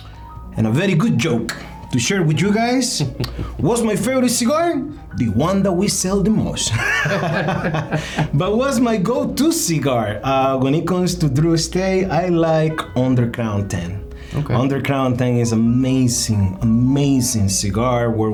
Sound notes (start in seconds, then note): 2.9 laughing; 6.7 both laughing